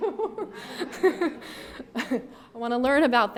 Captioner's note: audience laughs